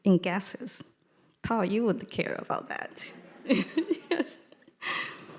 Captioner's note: chuckles